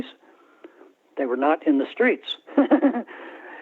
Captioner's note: laughter